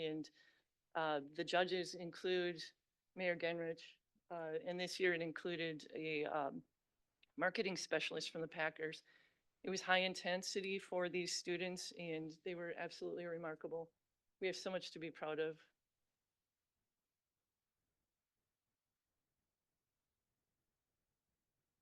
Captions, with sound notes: and the judges include Mayor Gennrich and this year it included a marketing specialist from the Packers. It was high intensity for these students and they were absolutely remarkable. We have so much to be proud of. (audio cuts out)